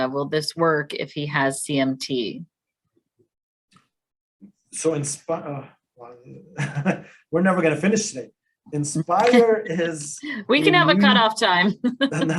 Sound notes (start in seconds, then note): 6.2 laughs; 10.4 laughs; 11.6 laugh